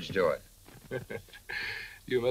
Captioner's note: chuckles